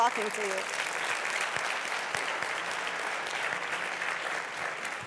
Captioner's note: applause